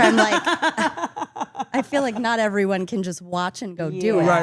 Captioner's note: laugh